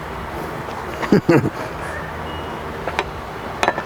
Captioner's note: giggles